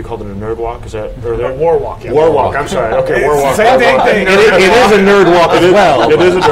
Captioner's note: laughing